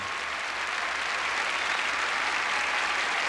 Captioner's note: applause